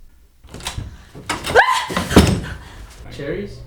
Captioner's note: Liz screams